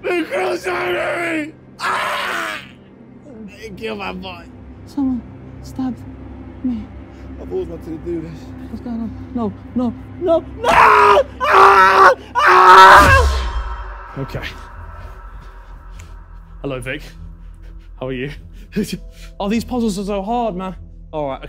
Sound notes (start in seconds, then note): 10.6 screaming